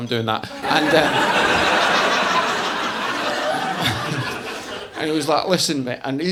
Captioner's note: audience laughing